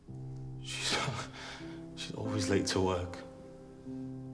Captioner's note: laughs